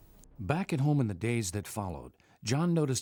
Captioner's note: voiceover